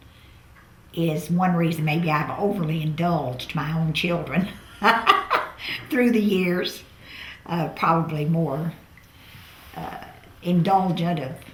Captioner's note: laughs